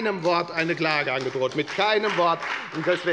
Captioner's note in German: Beifall bei der FDP